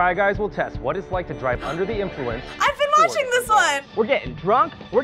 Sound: gasps

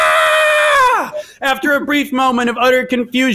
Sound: screams

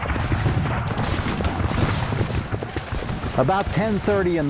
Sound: guns fire

